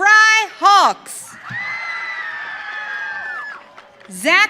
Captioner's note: audience cheering